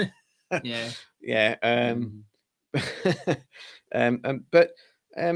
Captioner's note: laughter